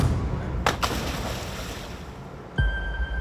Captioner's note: diver splashes